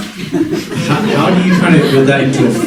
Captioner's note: congregation laughing